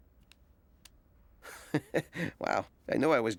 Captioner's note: chuckling